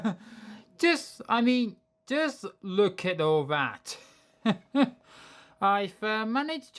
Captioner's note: chuckles